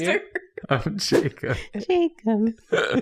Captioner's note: laughing; swish; laughing